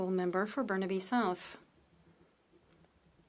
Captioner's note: speaking French